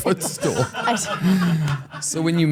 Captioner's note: crew laughs